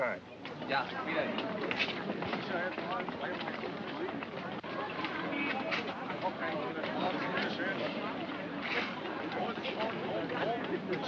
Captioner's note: city street sounds